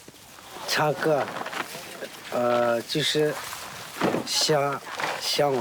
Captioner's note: speaking in foreign language